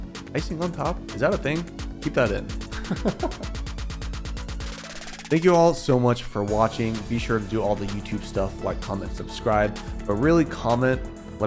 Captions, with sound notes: Icing on top, is that a thing? Keep that in. (laughing) Thank you all so much for watching. Be sure to do all the YouTube stuff like comment, subscribe, but really comment.